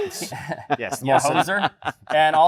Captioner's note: laughter